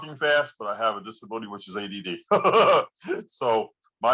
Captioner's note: laughs